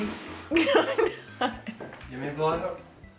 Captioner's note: exhaling; laughing